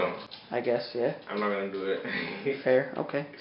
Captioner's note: laughs